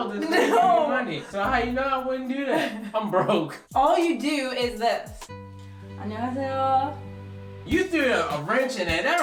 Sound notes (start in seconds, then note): 5.2 serene music; 5.5 speaks in Korean